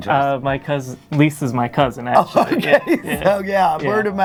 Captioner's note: laughs